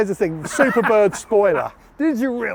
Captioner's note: laughing